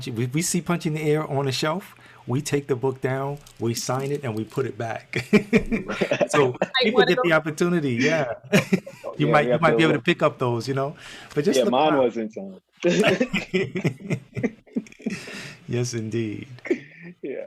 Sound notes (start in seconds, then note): 5.2 laughing; 12.8 all laughing